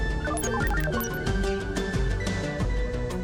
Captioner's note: computer beeps